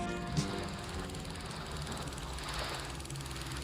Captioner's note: projector noise